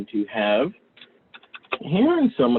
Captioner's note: clicking sounds